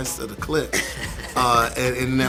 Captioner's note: laughing